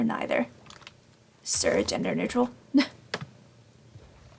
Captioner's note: laughs